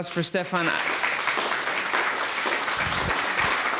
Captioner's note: applause